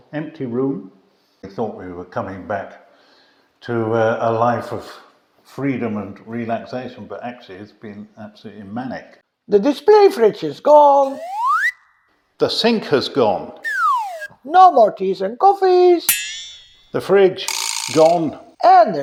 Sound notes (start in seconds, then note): 11.0 swanee whistle; 13.6 swanee whistle; 16.1 twang; 17.5 vibra slap